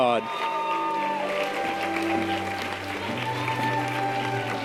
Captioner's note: audience applause and cheers